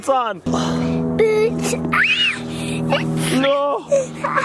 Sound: screams

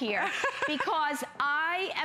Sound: laughter

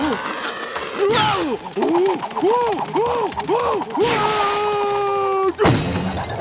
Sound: screaming

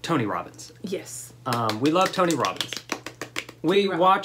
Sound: clapping; claps

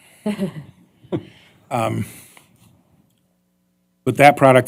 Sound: laughter

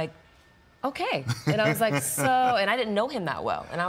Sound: laughs

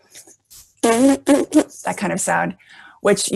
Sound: lips Buzzing

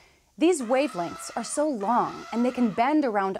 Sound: elephant trumpeting

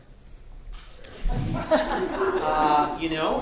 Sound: audience laughing

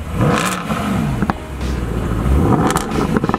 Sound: vrrrrrrroooooommmm-vRRRRROOOMMM!

